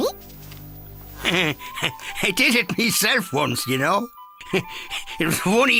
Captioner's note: chuckling